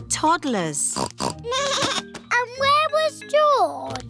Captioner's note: snorts; bleats